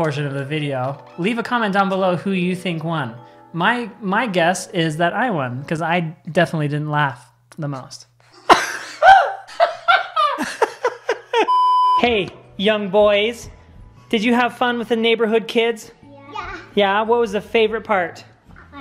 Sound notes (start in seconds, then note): 8.4 laughs; 11.4 beep